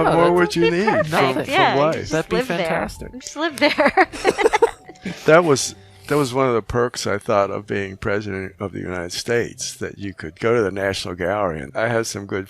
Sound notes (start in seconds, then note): 3.6 laughing